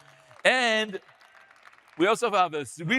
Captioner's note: audience applauding